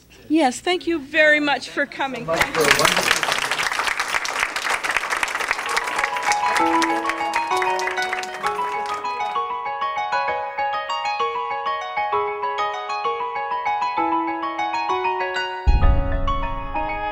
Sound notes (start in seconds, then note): 2.1 applause; 5.4 closing music